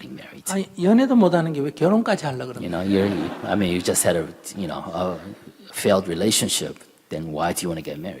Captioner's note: /Audience Laughter